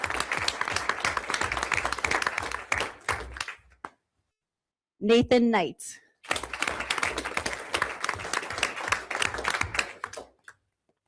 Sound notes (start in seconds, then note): 0.0 everyone applauds; 6.2 everyone applauds